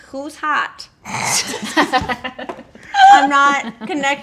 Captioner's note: laughing